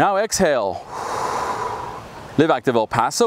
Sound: exhales

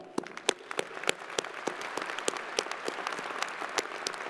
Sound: crowd applauding

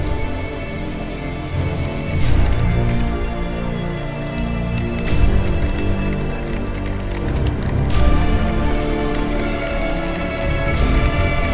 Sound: typing

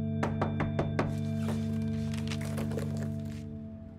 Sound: Jeff knocking

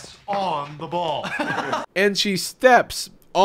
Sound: laughs

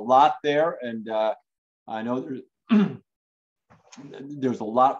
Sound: clears throat

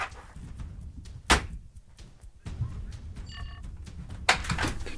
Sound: door slams shut

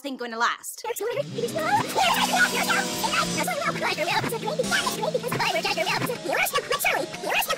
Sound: canadian gibberish

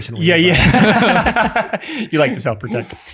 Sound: laughs

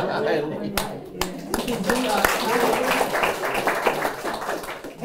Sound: applause

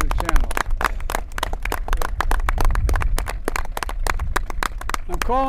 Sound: applause

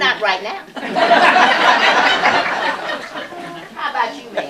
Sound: laughter

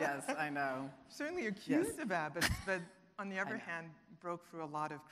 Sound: voice muffled

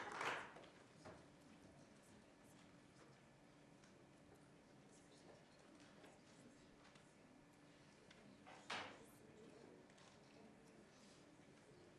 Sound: applause

